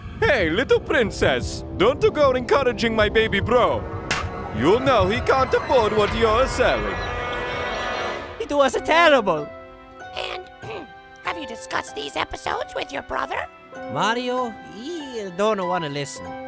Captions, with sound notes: Hey-a, little princess! Don't-a go encouraging my baby bro.. (slap!) You know he can't afford what you're selling... It was-a terrible!! And.. (ahem) Have you discussed these episodes with your brother? Mario? He-a... don't-a wanna listen.